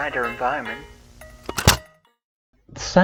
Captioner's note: cassette ejects